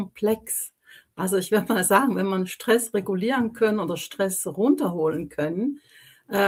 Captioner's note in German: none